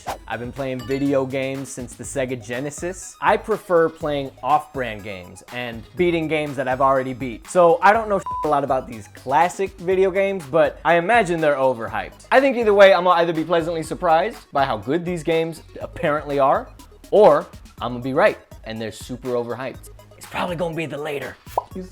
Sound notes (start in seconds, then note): 8.2 beeping